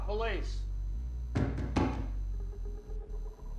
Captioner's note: knocking